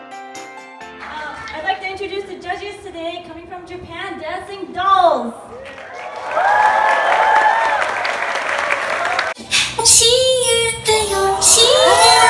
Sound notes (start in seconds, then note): 5.6 applause